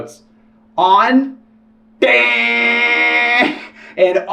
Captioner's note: insufferable buzzing